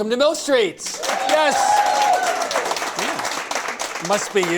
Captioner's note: cheers and applause